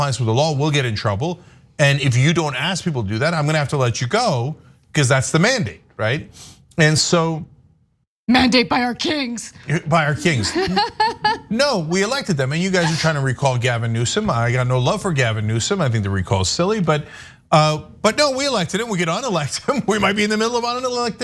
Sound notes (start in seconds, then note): 10.1 laugh